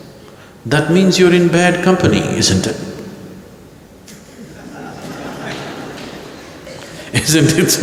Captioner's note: laughter